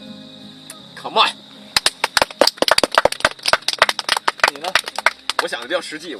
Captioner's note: everyone claps